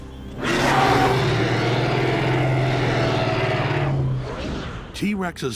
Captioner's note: roars